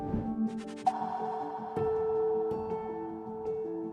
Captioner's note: gong